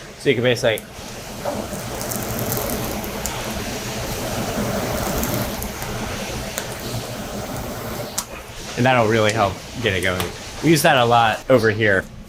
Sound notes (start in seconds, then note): 1.8 fire crackles